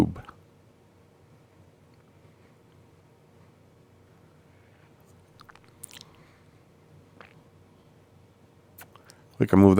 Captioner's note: silence